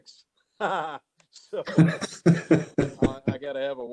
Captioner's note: presenters laughing